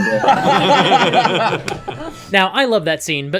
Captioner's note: laughter